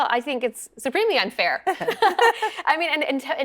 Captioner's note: laughing